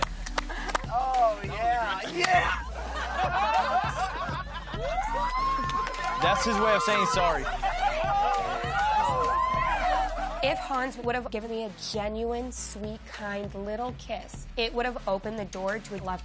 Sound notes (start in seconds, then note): 1.8 laughter